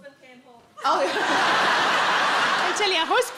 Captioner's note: audience laughs